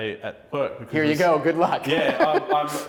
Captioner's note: laughing